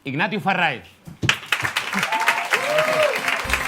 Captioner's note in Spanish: Aplausos